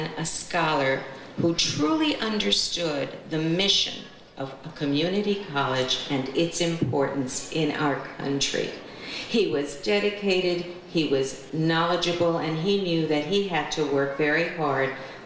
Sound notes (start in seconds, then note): none